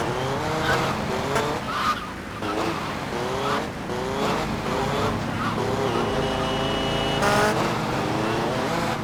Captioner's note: engine revving